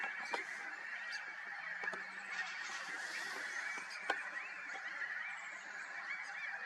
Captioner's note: birds chirping